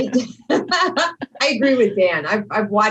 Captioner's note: laughter